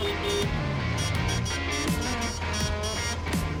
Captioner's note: honks horn; honking horn back